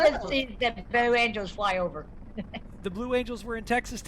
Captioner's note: laughs